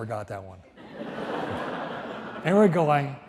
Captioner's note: audience laughs